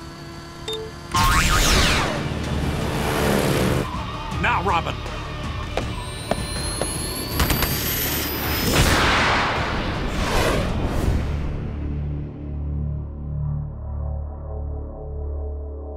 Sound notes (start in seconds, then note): 0.6 ejector chimes; 5.8 boots clicking; 8.0 jets firing; 11.1 dramatic music